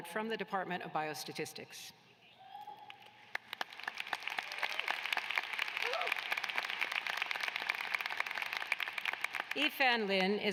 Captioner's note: applause